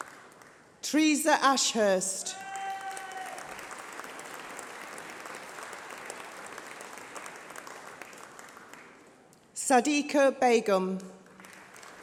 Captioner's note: applause